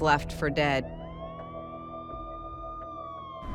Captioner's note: siren